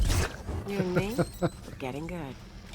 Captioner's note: laughs